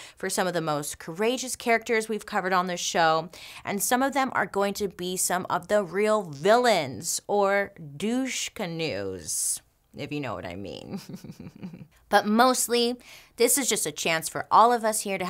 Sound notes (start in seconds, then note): 10.9 laughs